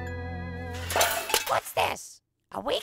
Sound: clang! bang!

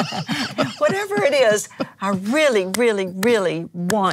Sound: laughs

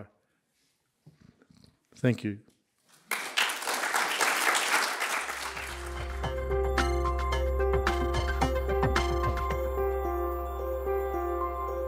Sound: applause

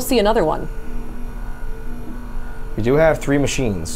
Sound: machine whirring continues

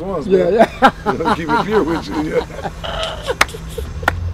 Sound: laughing; murmurs; clapping

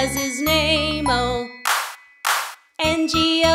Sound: clap

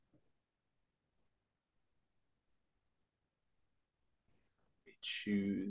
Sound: silence

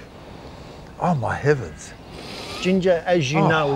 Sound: sniffs

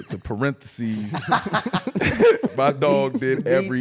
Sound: all laughing

